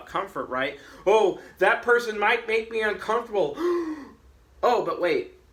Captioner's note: gasps